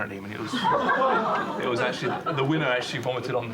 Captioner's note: laughter